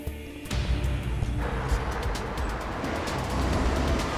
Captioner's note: Car speeding